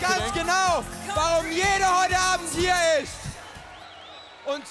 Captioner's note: speaks German